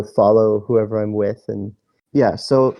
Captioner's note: none